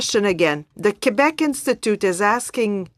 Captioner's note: speaking French